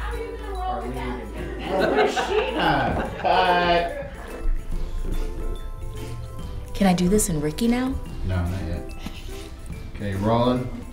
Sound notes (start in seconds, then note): 1.5 laughing